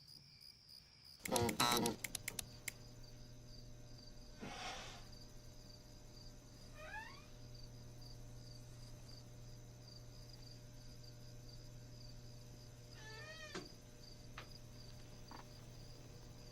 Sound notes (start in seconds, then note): 1.8 light switch repeatedly clicks on and off; 3.4 light switch stops clicking; 6.6 chair creaks; 12.9 chair creaks